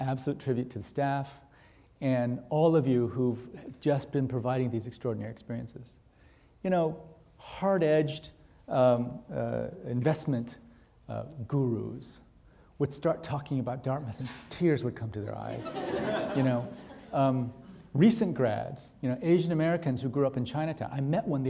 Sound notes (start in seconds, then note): 15.5 audience laughing